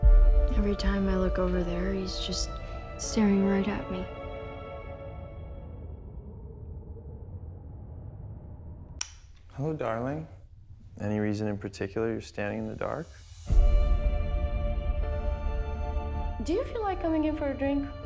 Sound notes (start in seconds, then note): 5.7 wind howling; 9.0 switch clicks; 11.7 suspenseful music